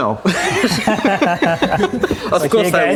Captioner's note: laughing